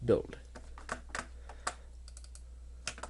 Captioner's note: clicking